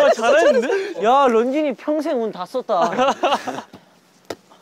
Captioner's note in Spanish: Jajaja